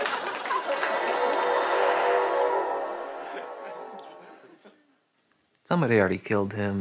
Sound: laughter; mystical sounds play

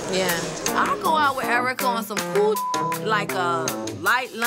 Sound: beep sound

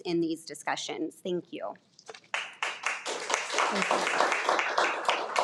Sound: attendees applaud

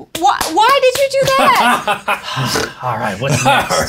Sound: guffaws

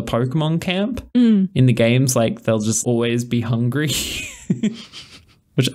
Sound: laughs

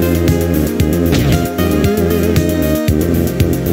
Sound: thud

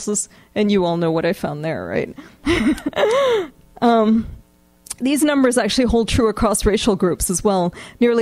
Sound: laughs

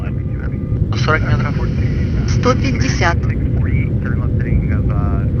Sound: female voice

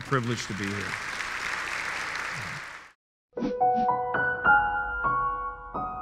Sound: audience applauding

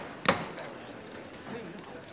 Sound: gavel pounding

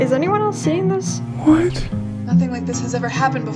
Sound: whimpering

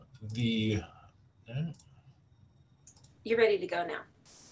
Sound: mouse clicks

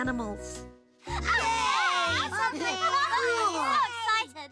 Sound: overlapping excited chatter

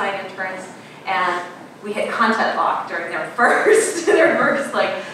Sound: laughing

